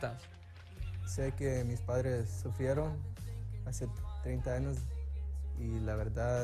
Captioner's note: athlete speaking in Spanish